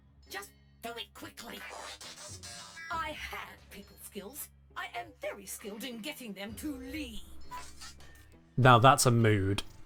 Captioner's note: static chatter